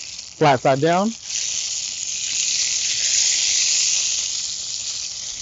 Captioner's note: oil hissing